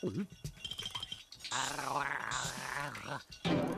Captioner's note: gargling